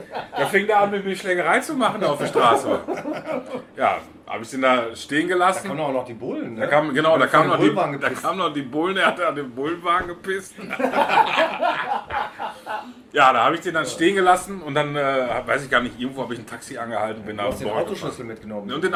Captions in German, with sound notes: Da fing der an, mit mir eine Schlägerei zu machen auf der Straße. Da habe ich ihn da stehen lassen und dann kamen noch die Bullen und er hat an einen Bullenwagen gepisst. [lachen] Da habe ich den dann stehen lassen und irgendwo habe ich ein Taxi angehalten